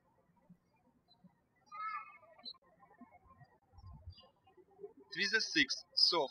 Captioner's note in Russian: птички щебечут